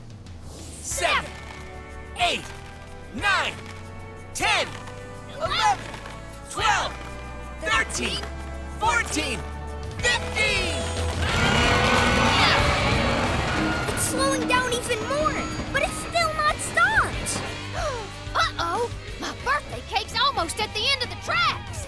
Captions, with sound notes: Seven, eight, nine, 10, 11, 12, 13, 14, 15! [grunting] It's slowing down even more, but it's still not stopped! Uh oh, my birthday cake's almost at the end of the tracks!